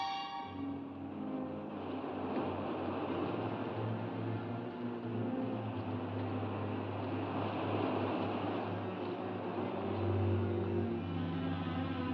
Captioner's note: ominous music; waves rolling